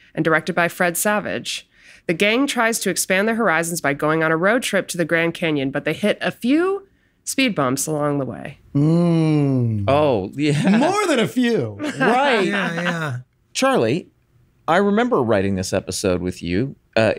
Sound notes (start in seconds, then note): 11.8 chuckles; 11.8 laughs